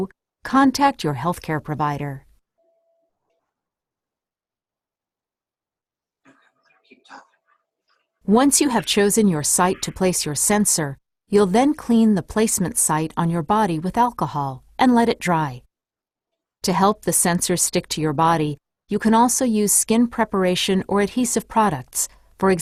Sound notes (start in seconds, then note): 2.5 silence